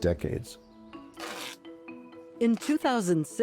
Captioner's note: ripping tape off